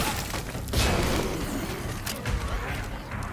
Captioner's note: gunshots